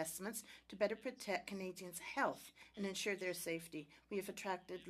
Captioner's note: speaking French